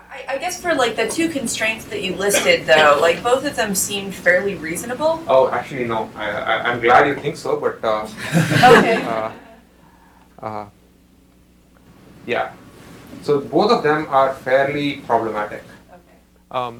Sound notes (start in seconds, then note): 8.0 chuckling